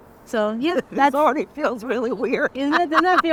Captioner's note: laughing